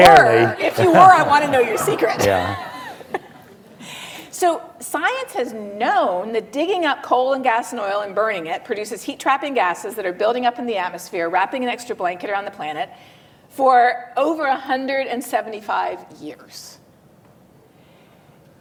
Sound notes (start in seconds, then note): 2.8 laughs